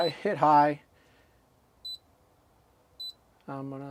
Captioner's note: beeping